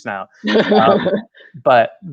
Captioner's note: laughing